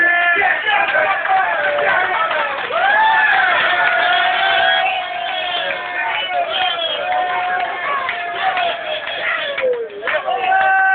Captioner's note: applause